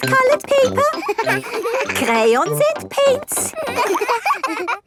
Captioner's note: all laughing